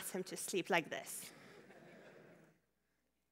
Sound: laughter

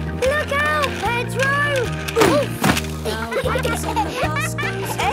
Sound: laughter

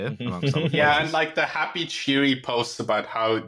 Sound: laughter

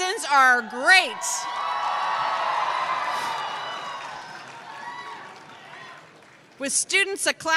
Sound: cheers

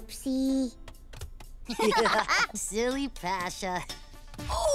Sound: laughing

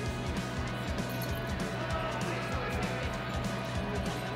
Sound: bell rattles

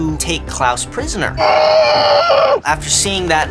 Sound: muffled screaming

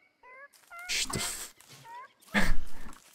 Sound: Mandrake meeping; laughs

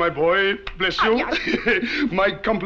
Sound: boy grunting

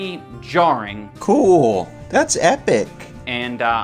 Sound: sarcastic

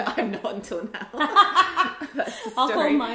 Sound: laughs

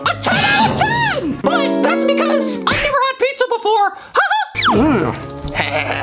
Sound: laughs

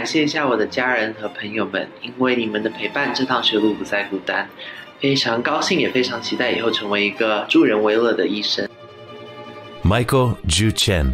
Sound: non-english speech

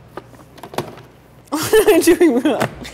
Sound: laughing

